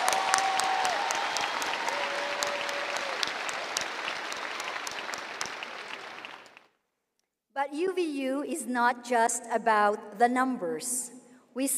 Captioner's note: cheering and applause